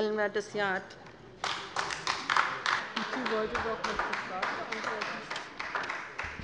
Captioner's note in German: Beifall bei der LINKEN